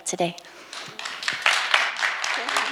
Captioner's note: audience applauding